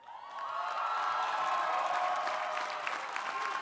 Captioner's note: crowd cheering